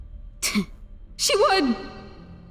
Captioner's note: scoffs; words echoing